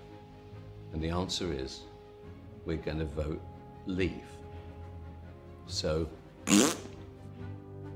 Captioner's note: blows raspberry